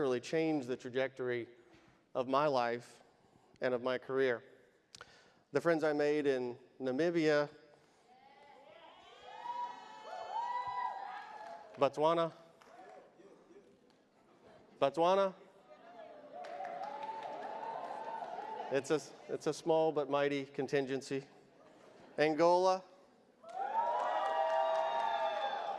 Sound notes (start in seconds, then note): 8.8 audience cheers; 16.3 audience applauds; 23.4 audience cheers